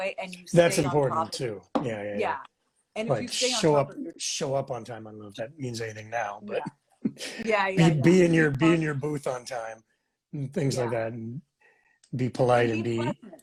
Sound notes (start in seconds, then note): 7.0 laughs